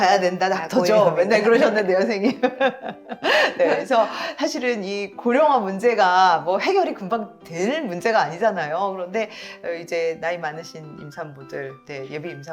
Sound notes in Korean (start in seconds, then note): 1.9 웃음